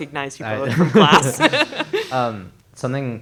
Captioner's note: laughter